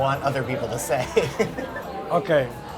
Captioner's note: laughs